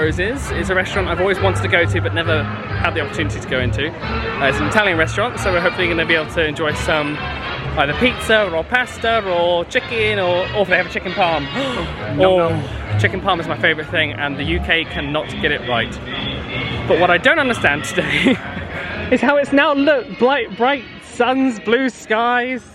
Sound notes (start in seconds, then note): 11.5 gasps